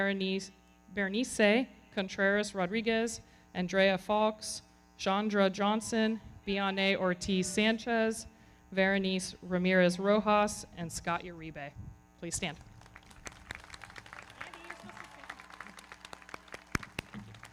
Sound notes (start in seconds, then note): 12.6 everybody clapping; 13.0 audience cheering